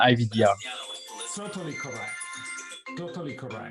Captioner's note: electronic chiming